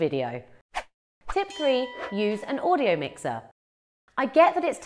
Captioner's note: bell ringing